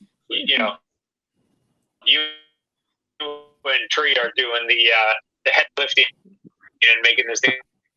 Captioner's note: glitchy audio